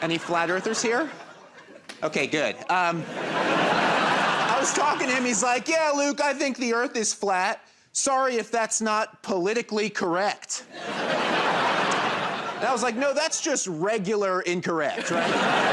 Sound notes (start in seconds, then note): 0.0 laughter; 10.7 laughter; 14.9 laughter